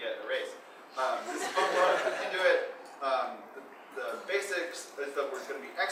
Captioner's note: audience laughing